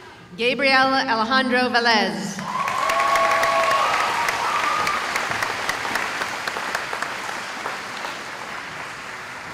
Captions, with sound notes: Gabrielle Alejandra [cheering]